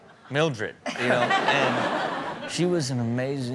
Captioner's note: Chanel and audience laughing